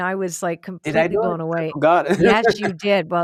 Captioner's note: laughs